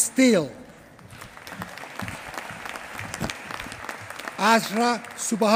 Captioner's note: applause